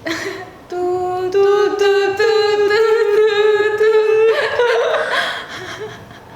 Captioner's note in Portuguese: risos; cantarolando